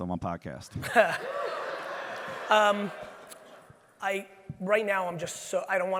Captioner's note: Gary laughs; audience laughing